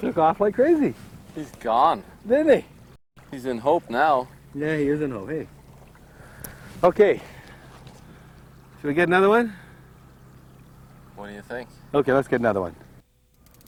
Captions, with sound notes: [Laughing] Nice. That was a nice release. He just took off like crazy. He's gone. Did he? He's in hope now. Yeah, he is in hope, hey. Okay. Should we get another one?